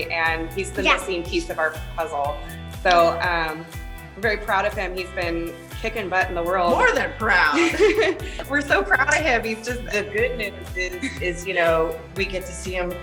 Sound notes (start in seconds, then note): 7.4 laughs